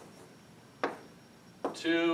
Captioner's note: chalk tapping